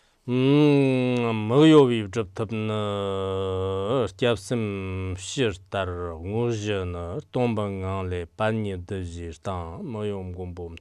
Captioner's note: giving oral transmission in Tibetan